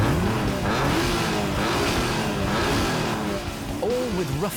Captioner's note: engines roar